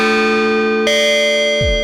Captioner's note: an Evil chime